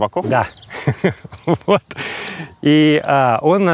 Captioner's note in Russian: Смеясь